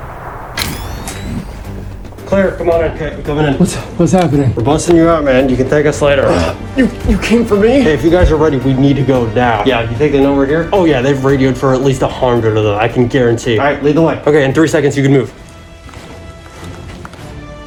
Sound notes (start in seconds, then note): 0.1 powers on; 15.9 heroic music